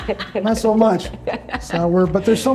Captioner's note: laughs